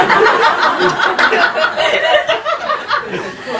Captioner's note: laughing